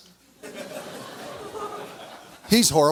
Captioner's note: audience laughs